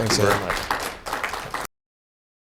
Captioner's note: applause